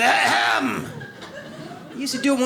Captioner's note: audience laughs